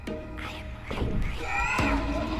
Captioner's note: alarming soundscape continues